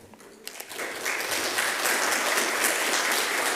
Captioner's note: applause